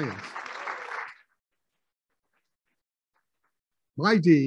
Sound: applauding

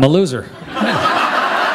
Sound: laughter

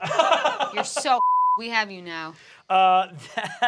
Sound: beep

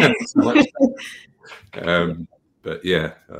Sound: laughing

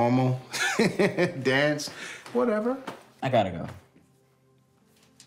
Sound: laughs

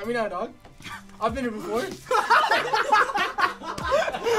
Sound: all laugh

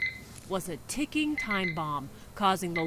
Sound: beep, beep sound from EKG machine

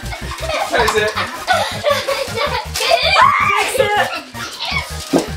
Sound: laughing; laughs

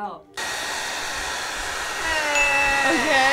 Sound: blow dryer whirs

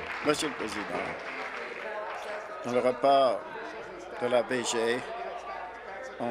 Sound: applause

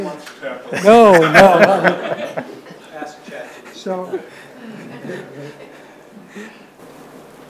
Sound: participants laugh

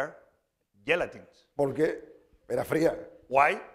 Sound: speaking spanish

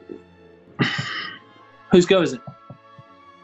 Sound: sighs

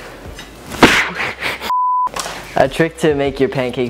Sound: sneezing

